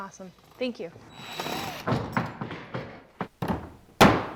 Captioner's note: drill whirring; hammer pounding